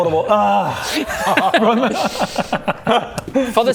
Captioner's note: unimpressed laughs